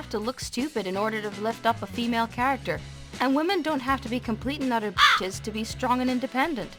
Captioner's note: caw